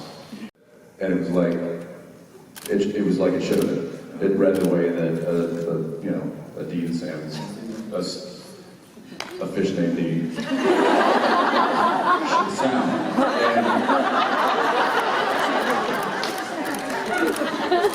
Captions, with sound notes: And it was like... it was like it should have been. It read the way that a, you know, a Dean and Sam -- a fish named Dean -- should sound. And-- [laughter]